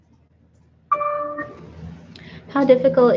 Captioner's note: computer dings